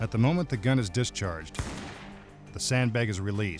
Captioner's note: gunshot